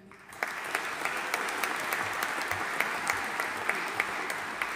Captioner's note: audience applauding